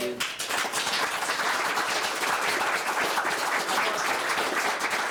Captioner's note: audience clapping